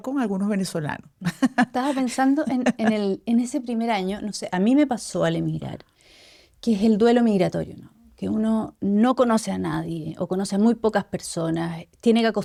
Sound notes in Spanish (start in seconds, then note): 1.2 risas